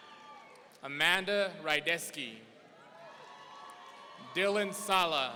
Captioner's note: audience cheering